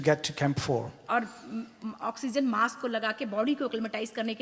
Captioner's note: speaks foreign language